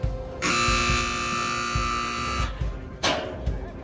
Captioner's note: buzzer sounding